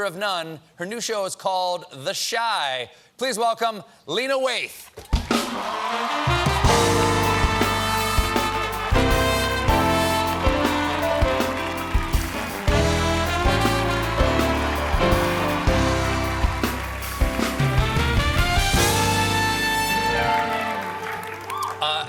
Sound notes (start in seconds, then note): 7.0 band playing; 7.0 cheers and applause